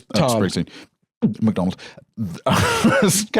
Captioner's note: gulps; laughs